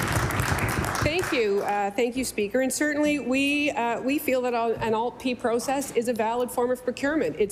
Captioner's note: applause